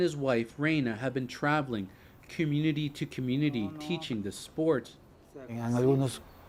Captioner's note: speaking alternate language